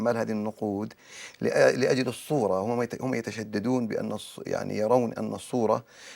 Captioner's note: speaking in Arabic